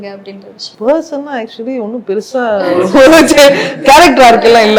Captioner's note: chuckles